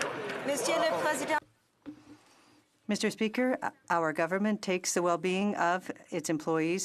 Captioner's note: some Applause